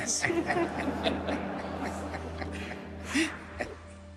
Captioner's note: audience laughing